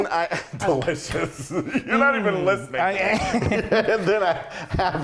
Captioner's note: laugh